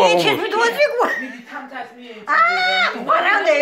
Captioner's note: laughing